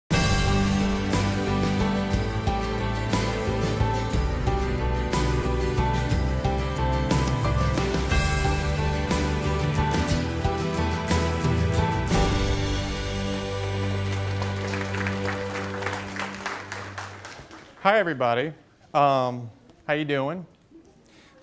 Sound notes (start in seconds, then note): 0.1 gentle inspirational music; 13.8 clapping